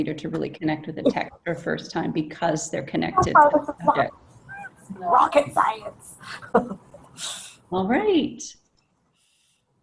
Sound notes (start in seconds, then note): 5.3 male Voice